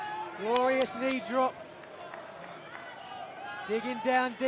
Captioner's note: crowd chatter